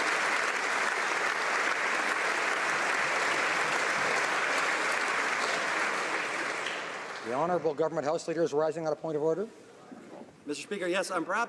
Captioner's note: applause